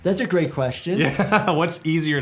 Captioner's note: laughs